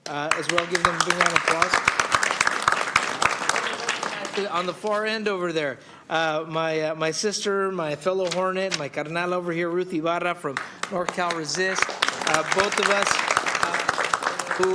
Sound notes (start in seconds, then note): 10.5 applause